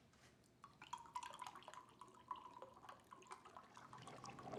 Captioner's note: liquid pouring